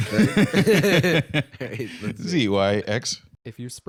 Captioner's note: both laughing